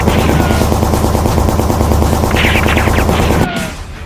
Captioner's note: gunshots firing